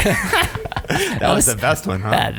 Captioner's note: all laughing